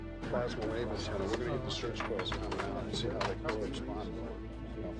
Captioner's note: navigators chattering